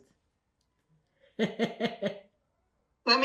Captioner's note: laughing